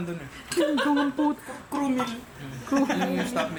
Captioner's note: laughs